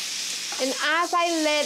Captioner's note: Chorizo sizzles loudly